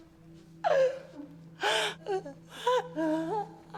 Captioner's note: Jane sobs